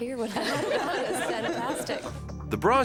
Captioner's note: group laughing